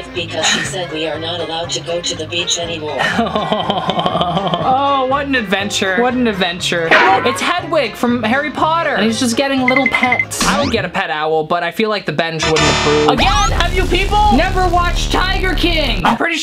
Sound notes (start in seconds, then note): 3.0 laughing